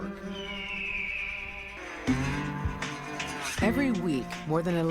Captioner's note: eagle screams